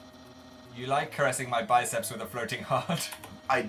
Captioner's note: laughs